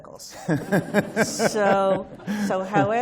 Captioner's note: laughter